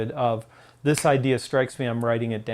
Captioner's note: fingers snaps